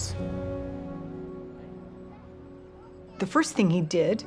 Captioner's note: child chattering